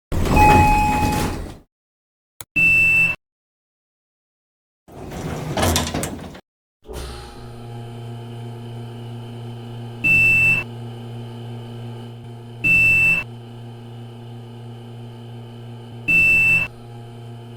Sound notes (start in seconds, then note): 0.2 1992 Otis Series 1 Chime Up & Elevator Opens; 6.8 elevator Going Up To 6th Floor